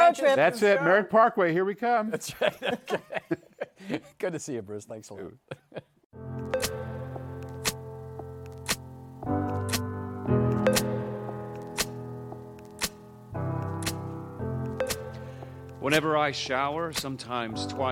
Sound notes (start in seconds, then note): 2.2 laughing; 5.4 chuckles